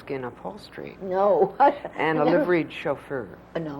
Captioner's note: laughs